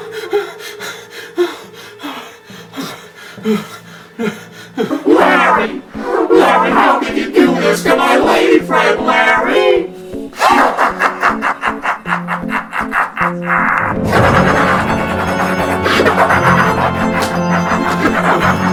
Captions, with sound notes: Larry? Larry, how can you do this to my lady friend, Larry? (Henrietta laughing) (Dramatic orchestral music)